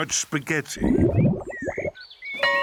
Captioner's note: groans; tummy rumbles; school bell rings